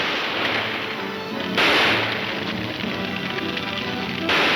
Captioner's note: gunshots banging; flames crackling